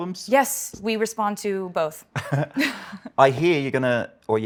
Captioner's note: both laugh